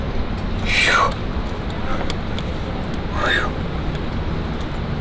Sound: exhales sharply

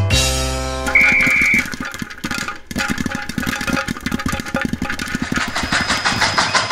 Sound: upbeat music; whistle blows; clattering; train engine chugging

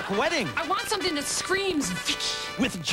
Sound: dramatic whisper

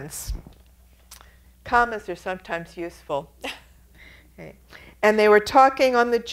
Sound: chuckles

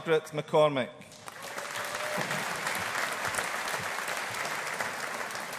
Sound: audience applauding

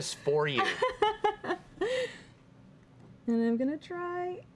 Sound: giggling

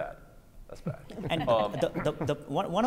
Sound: judges laughing

